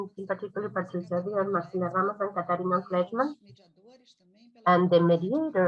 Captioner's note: speaking in foreign language